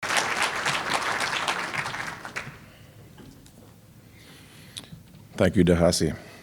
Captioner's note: applause